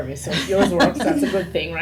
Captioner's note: laughter